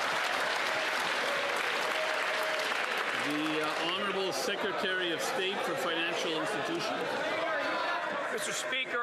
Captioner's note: some Applause